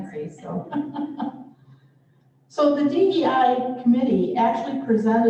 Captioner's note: laughter